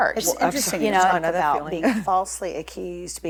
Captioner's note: group chatter